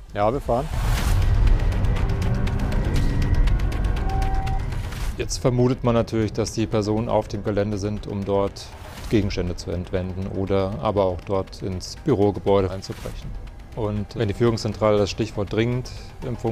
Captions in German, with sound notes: Ja, wir fahren. (Treibende Musik) (Sirenen, Piepen) Jetzt vermutet man natürlich, dass die Personen auf dem Gelände sind, um dort Gegenstände zu entwenden oder aber auch dort ins Bürogebäude einzubrechen. Wenn die Führungszentrale das Stichwort "dringend"